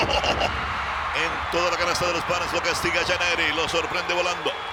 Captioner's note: laugh